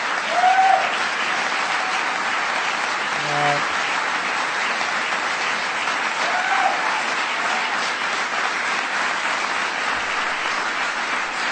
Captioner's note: applause